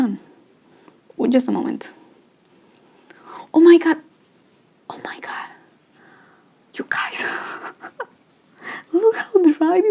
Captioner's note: laughs